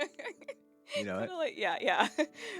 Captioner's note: laughing